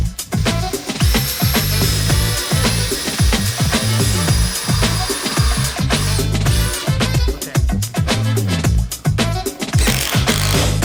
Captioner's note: drilling